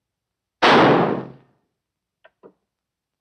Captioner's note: explosion